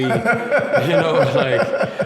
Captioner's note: laughs